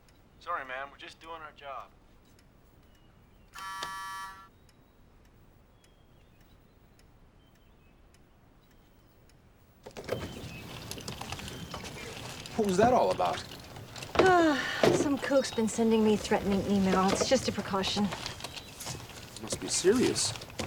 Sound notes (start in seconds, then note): 3.5 door buzzes; 14.1 sighs